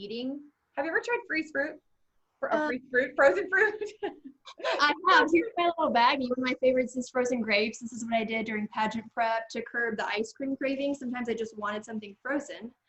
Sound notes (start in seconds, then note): 3.5 chuckles